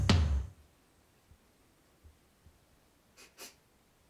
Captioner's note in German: Musik verstummt, Stille; Schnüffeln